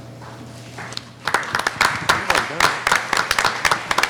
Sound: applauding

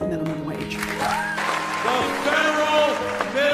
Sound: applause

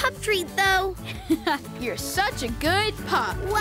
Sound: laughing

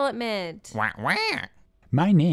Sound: squawk

